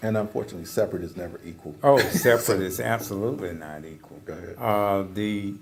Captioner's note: laugh